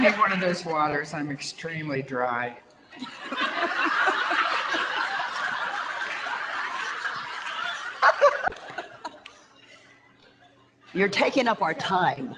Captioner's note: audience laughter